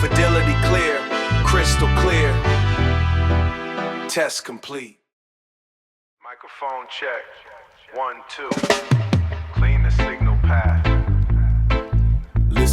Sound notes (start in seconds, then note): 4.1 spoken soft